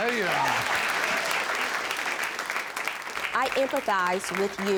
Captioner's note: audience applauds